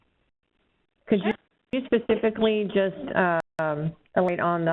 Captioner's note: voiceover; voiceover